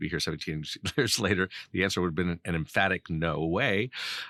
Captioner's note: laughing